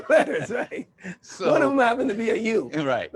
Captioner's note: laughter